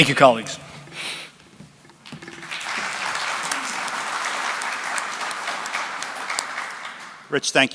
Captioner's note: applause